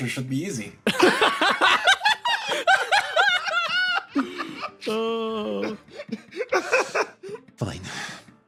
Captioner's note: laughs